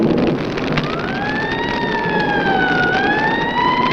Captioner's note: fire crackling